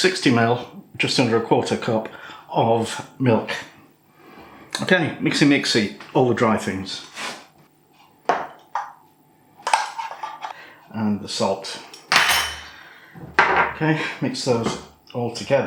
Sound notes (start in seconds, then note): 13.2 clunk